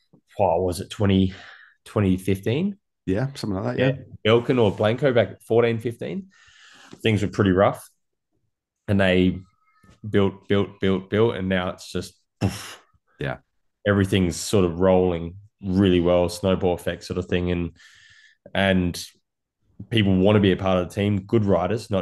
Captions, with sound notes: - was it 2015? - Yomething like that, yeah. - Belkin or Blanco back in '14, '15. Things were pretty rough and they built, built, built, built and now it's just [poof]. Everything's sort of rolling really well, a snowball-effect sort of thing. And people want to be a part of the team, good riders,